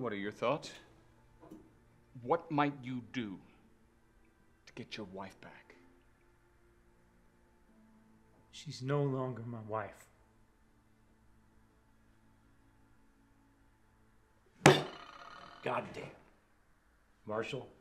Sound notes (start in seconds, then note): 14.6 smacks table